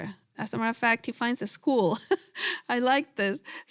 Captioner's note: laughs